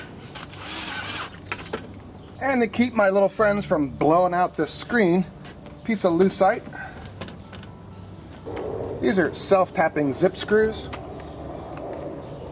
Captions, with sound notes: (whirring) And to keep my little friends from blowing out the screen, a piece of Lucite. These are self-tapping zip screws.